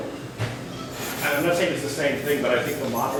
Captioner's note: voiceover